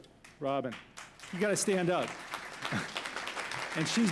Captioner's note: applause